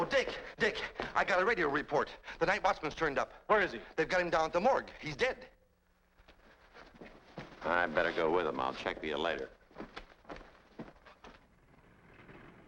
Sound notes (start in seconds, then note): 4.7 pat